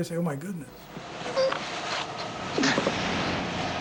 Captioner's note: grunting